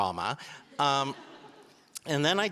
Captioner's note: audience laughing